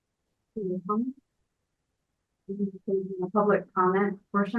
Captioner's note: speaking faintly